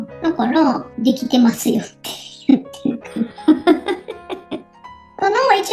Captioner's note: laughs